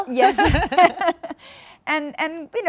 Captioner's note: laughing